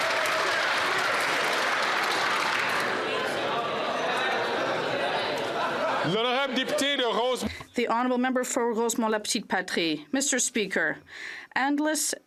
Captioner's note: applause